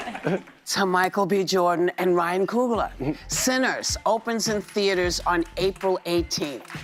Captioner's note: applause